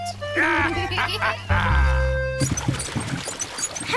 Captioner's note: both giggle